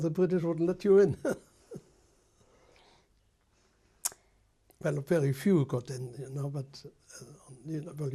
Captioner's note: laughs